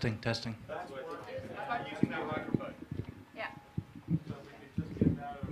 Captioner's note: crowd talking